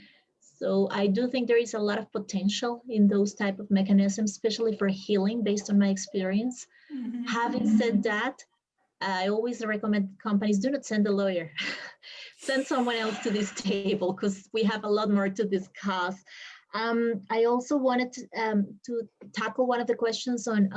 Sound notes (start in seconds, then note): 7.2 chuckles; 12.9 chuckles